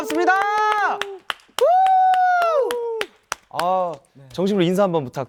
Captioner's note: round of applause